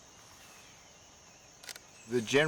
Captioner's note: shutter clicks